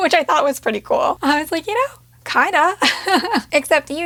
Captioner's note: laughs